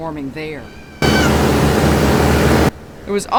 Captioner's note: screaming